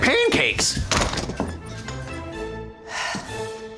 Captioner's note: slams door shut; sighs